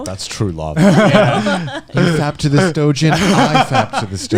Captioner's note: laughing